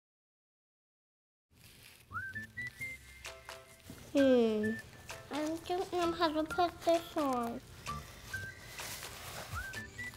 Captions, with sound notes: (upbeat music) (diaper rustling) - Hmm. I don't know how to put this on. (upbeat music)